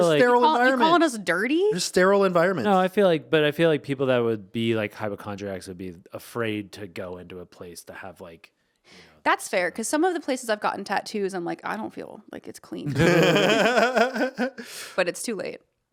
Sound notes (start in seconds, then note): 12.8 laughing